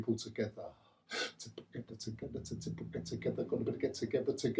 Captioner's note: beatboxing